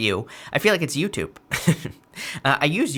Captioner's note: chuckles